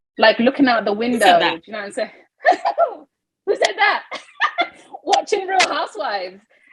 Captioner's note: laughing